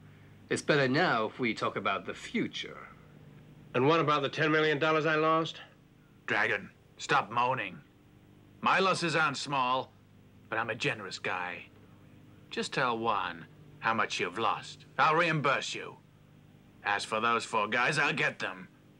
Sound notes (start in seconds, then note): none